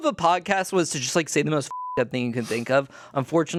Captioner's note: beep